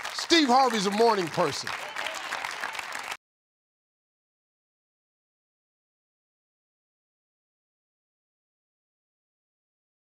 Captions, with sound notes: Steve Harvey's a morning person. (audience applauds)